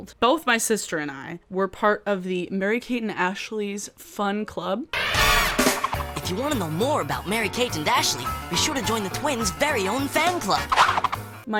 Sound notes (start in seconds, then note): 5.0 upbeat music; 6.4 voiceover